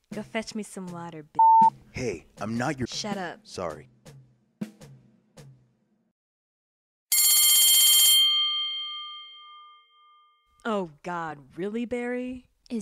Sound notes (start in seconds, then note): 7.6 bell rings